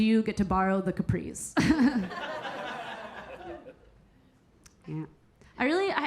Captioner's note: Keira chuckling; audience laughing